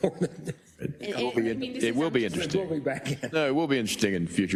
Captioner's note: laugh